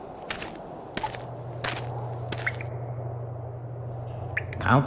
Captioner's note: footsteps thudding